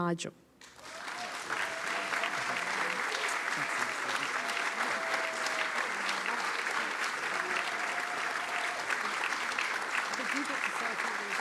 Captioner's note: applause